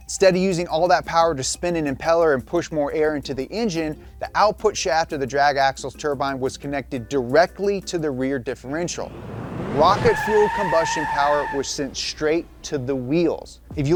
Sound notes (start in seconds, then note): 8.6 car engine roaring